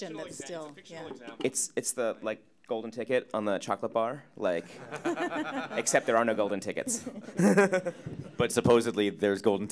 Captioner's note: audience Laughter